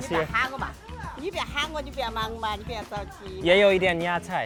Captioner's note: speaking Mandarin